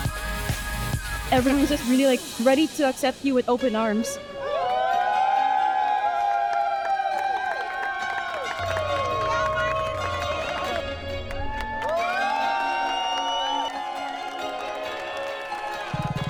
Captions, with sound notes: - Everyone's just really like ready to accept you with open arms. (crowd cheering) (crowd clapping)